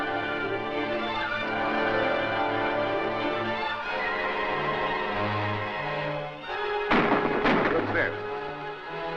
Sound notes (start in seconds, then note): 6.8 gunshots fire